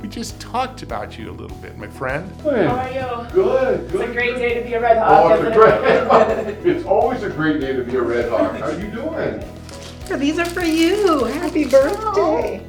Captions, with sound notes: - We just talked about you a little bit my friend. - Hey. - How are you? - Good, good. - It's a great day to be a red hawk. (both laughing) - It's always a great day to be a red hawk. How're you doing? - These are for you. Happy Birthday!